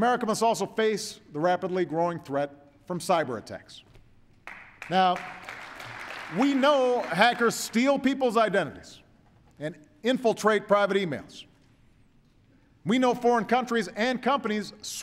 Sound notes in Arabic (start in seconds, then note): 4.4 تصفيق